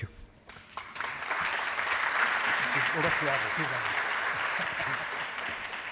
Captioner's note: applause